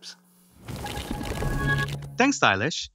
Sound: transition sound effect

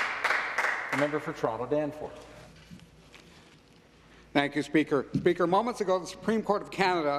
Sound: some Applause

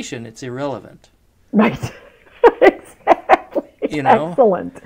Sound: laughs

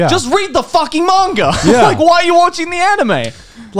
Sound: laughs

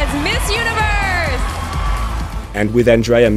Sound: crowd cheering

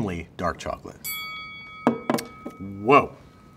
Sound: bell dings

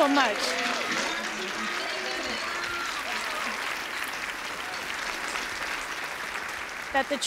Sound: cheers and applause

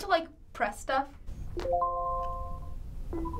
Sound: chime

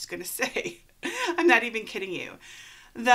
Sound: laughs

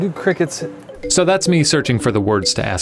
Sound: voiceover

